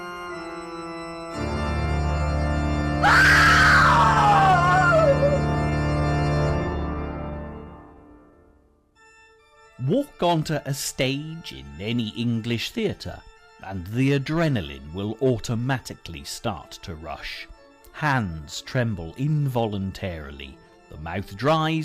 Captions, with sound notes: (woman screaming) Walk onto a stage in any English theater and the adrenaline will automatically start to rush. Hands tremble involuntarily, the mouth dries,